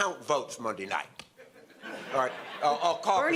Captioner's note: audience laughter